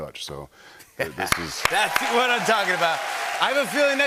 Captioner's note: cheers and applause